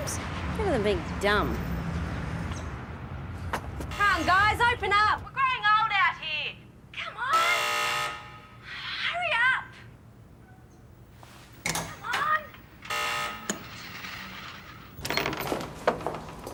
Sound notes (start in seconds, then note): 7.4 presses buzzer